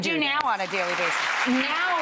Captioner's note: audience applauds